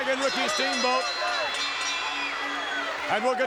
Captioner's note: bell rings